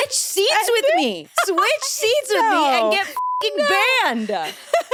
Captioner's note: beep; chuckles